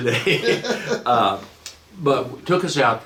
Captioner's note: laughing